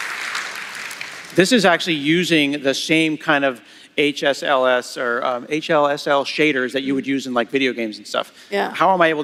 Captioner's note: applause